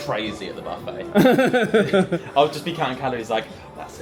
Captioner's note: laughs